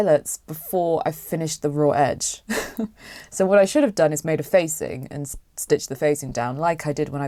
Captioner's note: laughs